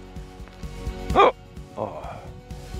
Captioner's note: hiccup-hiccup